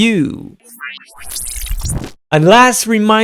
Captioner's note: electric whooshing